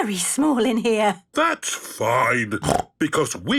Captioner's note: snorts